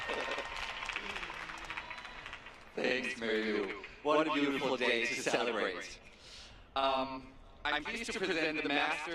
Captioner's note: applause